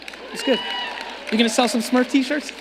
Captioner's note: audience cheering